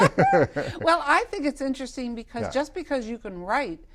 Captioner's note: laughter